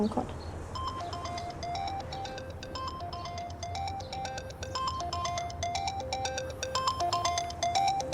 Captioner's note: mobile ringing